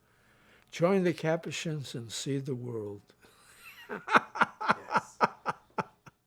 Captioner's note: laughs